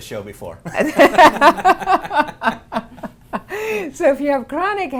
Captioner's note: laughing